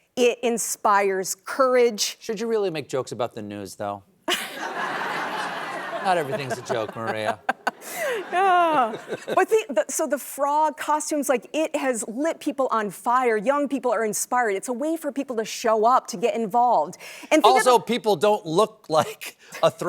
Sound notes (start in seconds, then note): 4.3 laughter